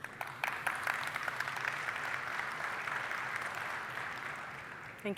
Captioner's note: applause